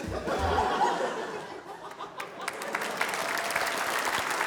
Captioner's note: laughter